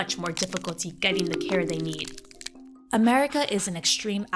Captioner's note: ground cracking